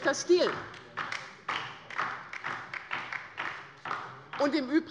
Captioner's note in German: Beifall bei der LINKEN